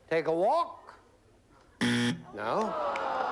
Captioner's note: buzzer